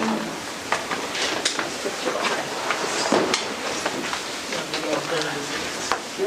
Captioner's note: background chatter